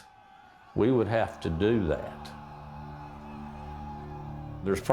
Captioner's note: soldiers bellowing